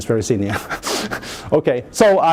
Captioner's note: chuckles